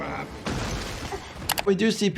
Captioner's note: rock smashing